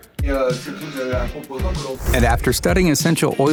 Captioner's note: worker speaks in foreign language